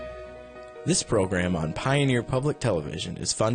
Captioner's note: voiceover